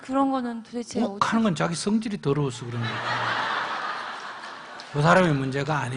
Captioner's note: audience Laughter